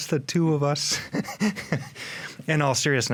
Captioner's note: chuckling